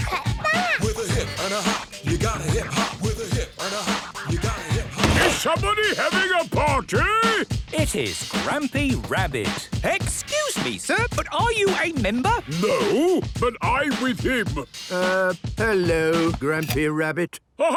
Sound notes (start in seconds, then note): 5.1 shouts; 16.5 hip hop music ends